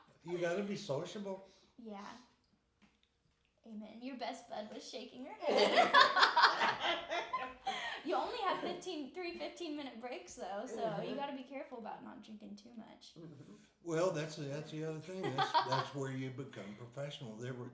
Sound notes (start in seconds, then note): 5.4 laughing